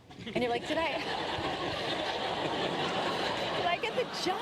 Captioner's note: laughter